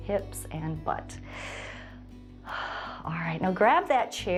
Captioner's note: inhales and exhales